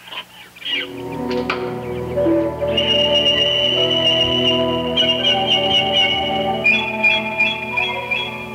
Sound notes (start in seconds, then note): 0.8 suspenseful music; 4.9 birds calling